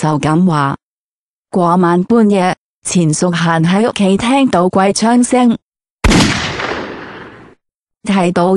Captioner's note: sound of gunshot